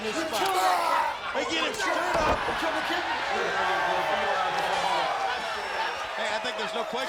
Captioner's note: group chattering